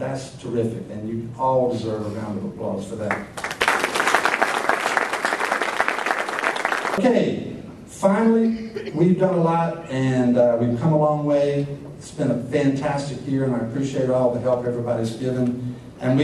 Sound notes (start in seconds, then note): 3.1 applause